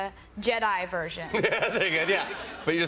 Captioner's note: laughter